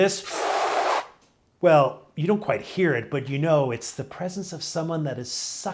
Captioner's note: sucking Sound